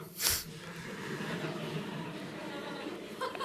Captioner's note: laughter